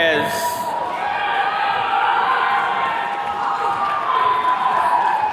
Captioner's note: attendees cheering